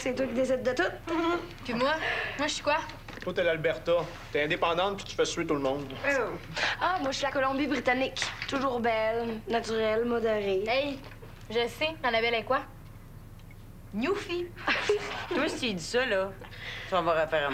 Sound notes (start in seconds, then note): 14.6 Rires